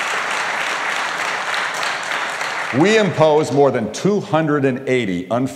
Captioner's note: applause